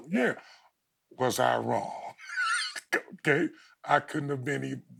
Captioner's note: chuckles